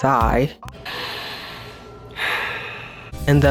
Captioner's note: taking a deep breath